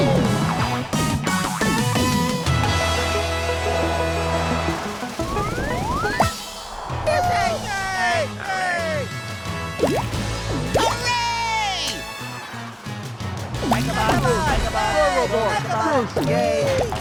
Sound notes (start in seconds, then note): 6.8 cheering; 13.8 cheering